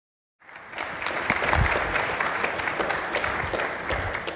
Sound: audience applauds

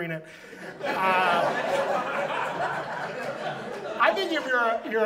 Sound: audience laughs

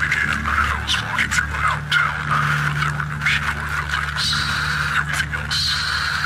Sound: eerie music; eerie man speaking through static

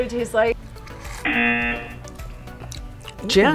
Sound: buzzer

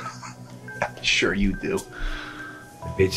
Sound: with a laugh

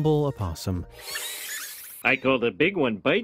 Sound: opossums screeching

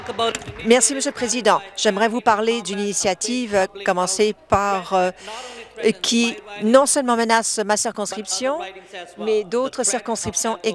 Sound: speaking French

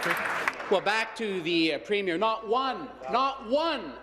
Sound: applause

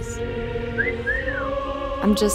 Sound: man whistles

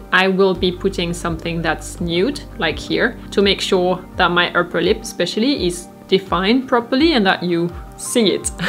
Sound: chuckles

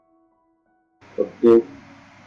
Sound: mic noise part two

